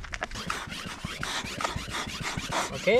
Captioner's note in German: pumpen